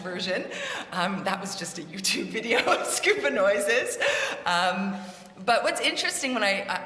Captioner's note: laughing